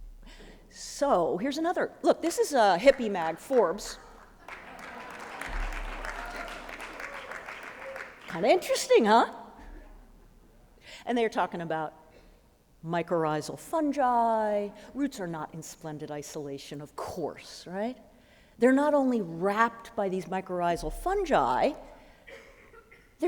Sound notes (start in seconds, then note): 4.1 applause